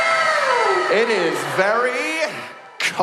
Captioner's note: wow sound effect